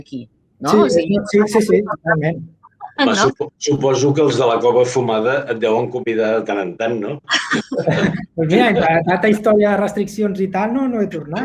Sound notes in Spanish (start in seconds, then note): 7.3 risas